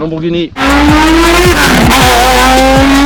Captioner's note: engine roaring